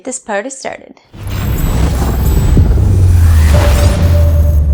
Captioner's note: dramatic boom